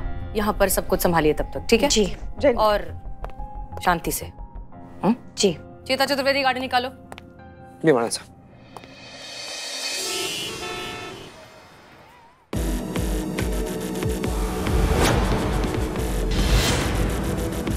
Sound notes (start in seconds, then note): 9.6 horn honking; 14.7 dramatic music